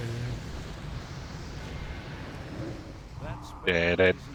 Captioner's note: humming